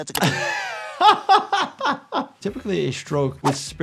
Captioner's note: Popeye stuttering; laughter